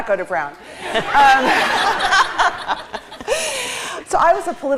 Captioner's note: laughter